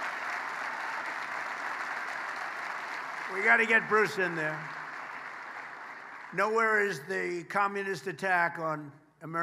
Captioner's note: applause; applause